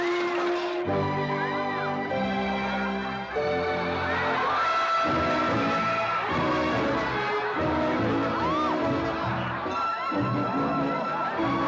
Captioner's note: amused crowd noises